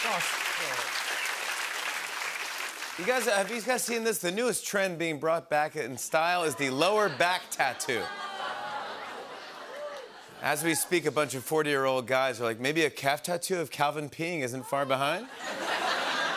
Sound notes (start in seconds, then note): 8.0 audience groans